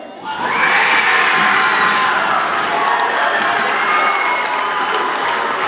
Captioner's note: audience cheers and applauds